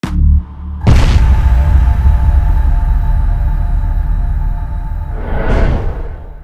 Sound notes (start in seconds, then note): 0.9 crash; 5.1 heavy swoosh